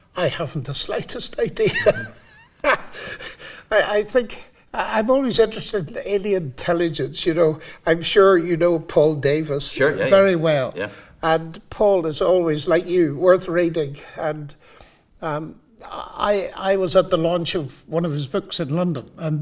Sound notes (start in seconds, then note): 1.6 both laughing